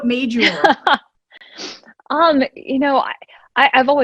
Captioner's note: laughing